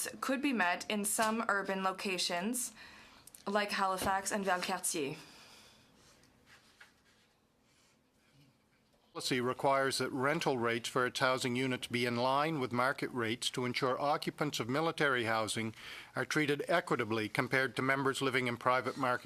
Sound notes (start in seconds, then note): 13.5 speaking english